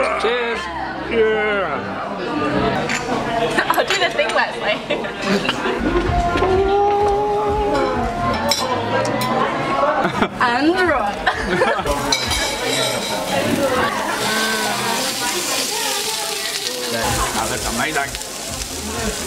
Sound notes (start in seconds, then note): 11.2 laughs; 15.4 sizzling